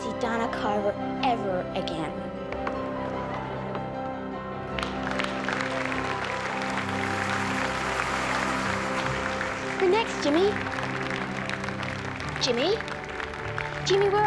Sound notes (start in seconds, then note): 5.5 applauding